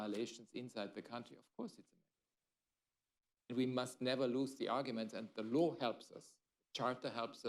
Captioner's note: off mic